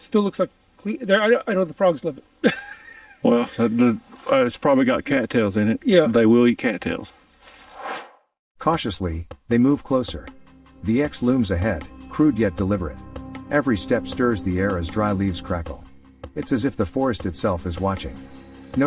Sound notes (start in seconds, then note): 2.4 chuckles; 7.6 air swooshes